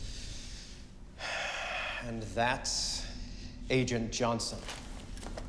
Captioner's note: exhales